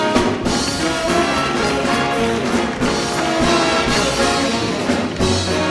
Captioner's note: audience applauding